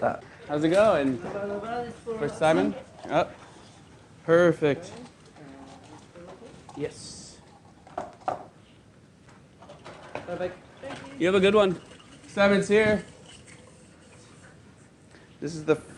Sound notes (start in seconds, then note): none